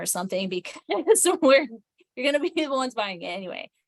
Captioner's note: chuckles